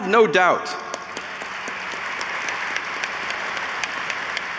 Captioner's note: audience applauds